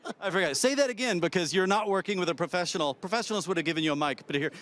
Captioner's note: laughs